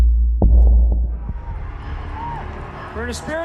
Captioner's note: cheers and applause